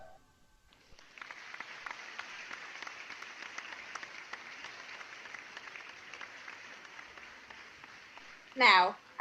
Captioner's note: applause